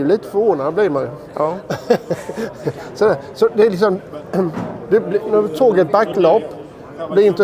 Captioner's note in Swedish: skratt